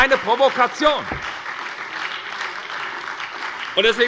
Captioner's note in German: Beifall bei der SPD, der LINKEN und der FDP